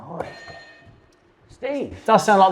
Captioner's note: buzzer blares